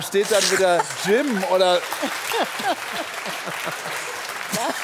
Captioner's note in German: Lachen; Applaus